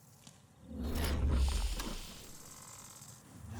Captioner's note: digital whoosh; another digital whoosh